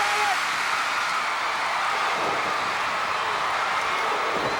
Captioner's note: crowd cheers